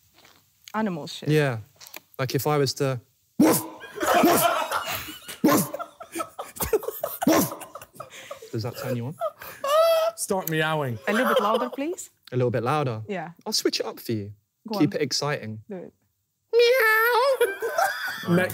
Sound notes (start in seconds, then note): 3.1 barking